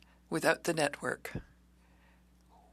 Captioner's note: speaking French